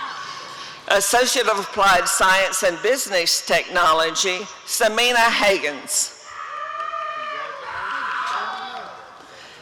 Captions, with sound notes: Associate of Applied Science in Business Technology— Semina Hagans [audience cheering]